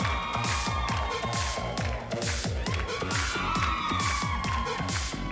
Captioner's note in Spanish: Palmadas al compás; Gritos y exclamaciones; Palmadas al compás